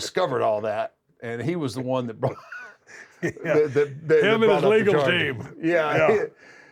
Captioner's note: laugh